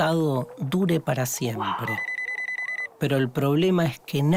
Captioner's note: phone ringing